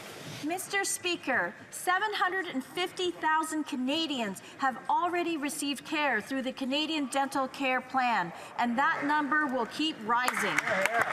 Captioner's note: some Applause